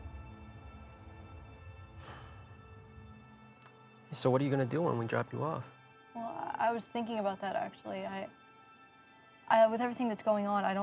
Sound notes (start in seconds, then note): 0.3 sad music; 1.9 exhales